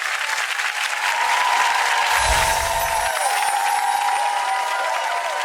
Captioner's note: audience applauding and cheering